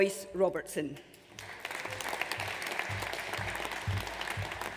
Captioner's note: audience applauds